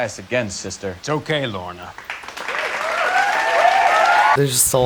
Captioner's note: studio audience cheers